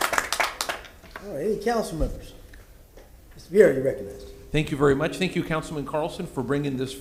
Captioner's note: applause